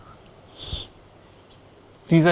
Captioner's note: sniffes